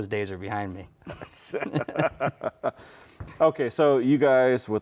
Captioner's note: both laughing